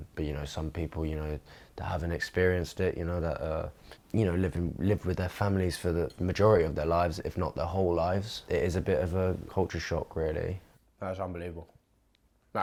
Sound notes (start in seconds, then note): none